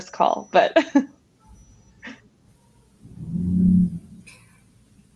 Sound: person laughing

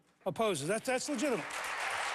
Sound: applause

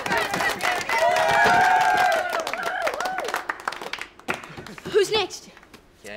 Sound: cheering and applauding

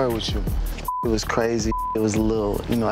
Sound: beep

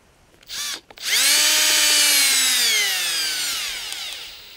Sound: drill whirring

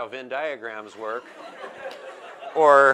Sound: laughter

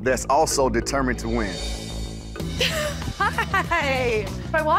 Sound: laughing

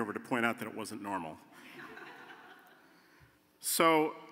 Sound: laughter

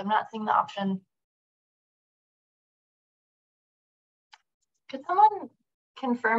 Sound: silence

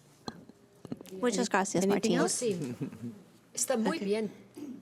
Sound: foreign language

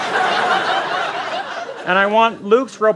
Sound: laughter

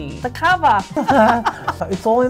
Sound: both laughing

